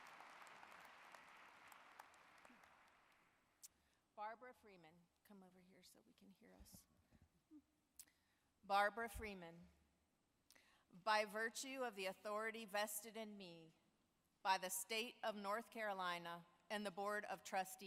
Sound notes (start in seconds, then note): 3.4 applause